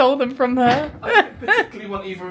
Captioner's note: laughs